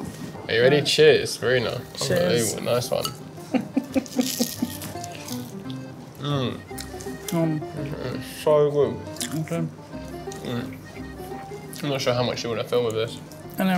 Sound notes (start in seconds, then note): 3.5 laughing; 6.2 both yumming